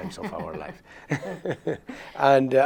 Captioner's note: laughs